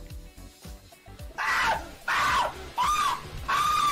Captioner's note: screaming